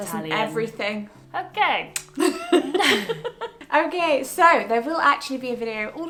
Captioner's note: laughs